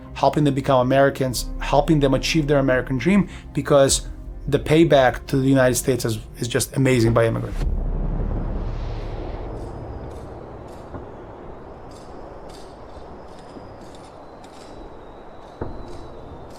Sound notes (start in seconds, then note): 9.2 factory and mine noises